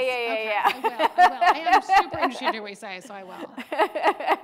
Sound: murmurs; laughing

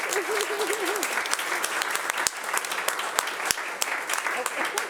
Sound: audience applauding

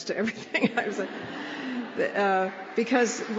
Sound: laughter; applause

